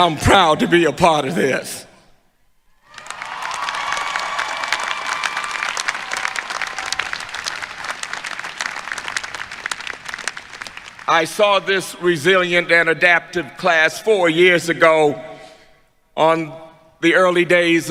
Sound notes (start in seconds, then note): 2.8 applause